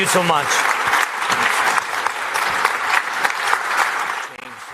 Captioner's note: applause